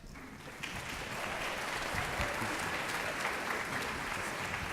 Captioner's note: applause